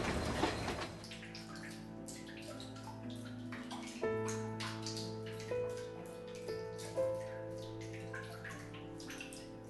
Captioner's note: water leaking